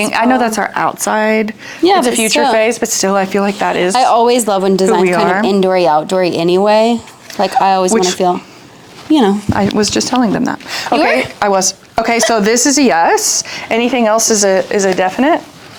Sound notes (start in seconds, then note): 11.3 laughs